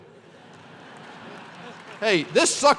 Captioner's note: laughter